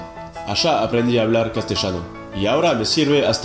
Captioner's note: Spanish